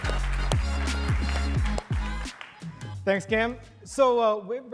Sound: audience applauding

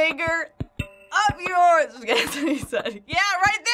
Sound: laughs

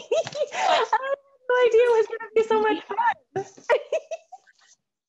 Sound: laughing; laughing

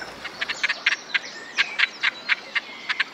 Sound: cackling

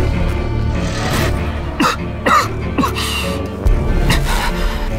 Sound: cough

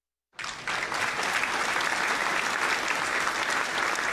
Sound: applauding

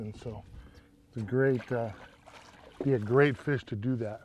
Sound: splashing

